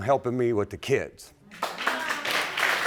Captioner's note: audience clapping